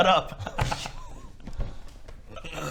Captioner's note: silent giggles